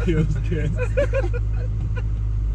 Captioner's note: laughing